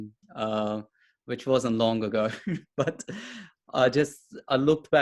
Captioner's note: chuckles